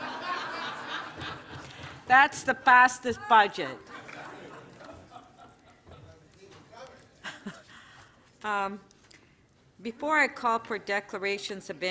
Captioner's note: laughter